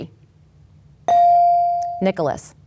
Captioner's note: bell dings